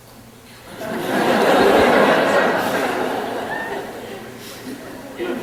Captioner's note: laughter in the audience